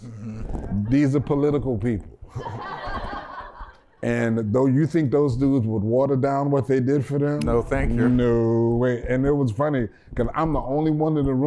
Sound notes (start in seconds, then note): 2.3 laughter